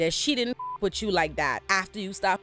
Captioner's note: beep